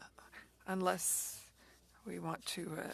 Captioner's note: speaking French